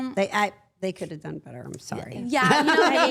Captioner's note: laughs